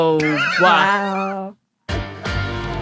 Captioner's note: others groan; wheezes